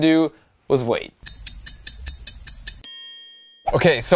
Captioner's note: clock ticking